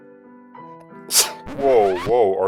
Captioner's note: record scratch